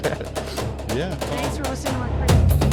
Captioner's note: laughing